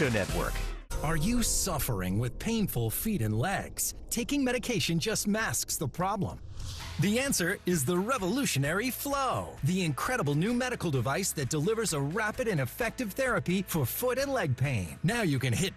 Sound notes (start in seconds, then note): none